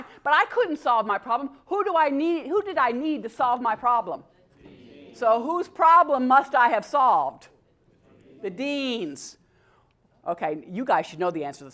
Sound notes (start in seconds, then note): none